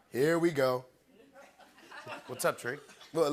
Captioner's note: laughter